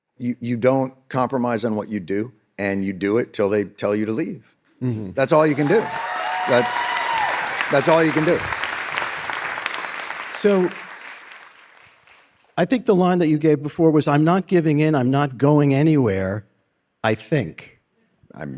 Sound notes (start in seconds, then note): 5.4 audience cheering; 9.1 audience applauding